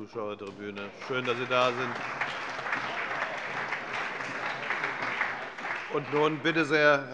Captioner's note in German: Beifall bei Abgeordneten der CDU und des BÜNDNISSES 90/DIE GRÜNE